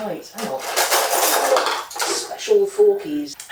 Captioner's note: rummaging in drawers